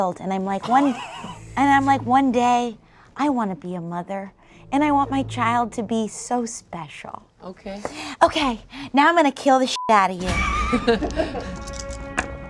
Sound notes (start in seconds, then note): 9.7 beep